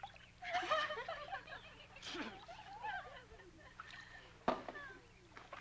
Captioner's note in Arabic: الفتيات يضحكن ويتحدثن